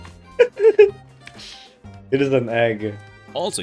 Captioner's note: giggle